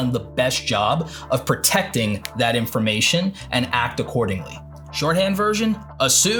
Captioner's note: snaps